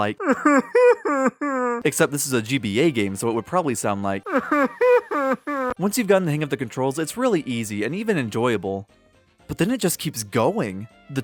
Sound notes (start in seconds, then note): 0.0 Buddy sobbing; 4.3 Buddy sobbing but bitcrushed